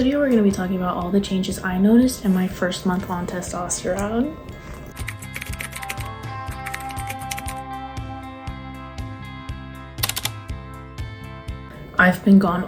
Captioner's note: typing